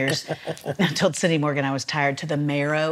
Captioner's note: laughs